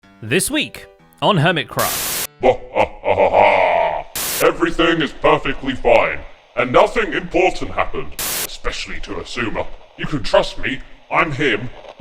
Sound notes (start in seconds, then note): 1.3 TV static; 2.5 evil laughter; 7.6 TV static